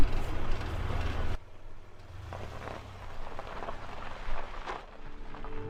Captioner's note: car pulling out; music fades in